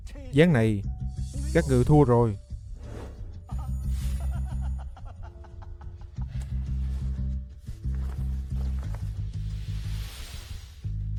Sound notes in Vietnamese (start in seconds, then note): 3.4 tiếng cười